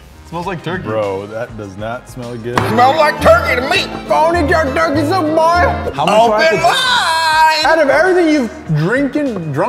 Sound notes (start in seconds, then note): 2.5 in weird cowboy-type acccents